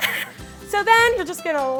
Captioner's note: laughs